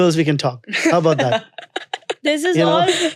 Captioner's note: child laughing